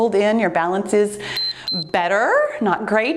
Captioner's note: timer beeps